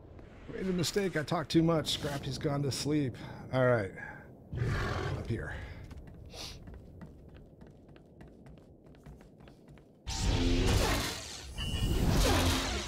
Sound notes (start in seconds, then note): 6.3 sniff